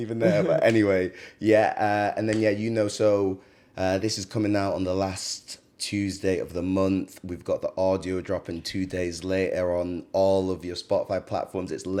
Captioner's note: laughs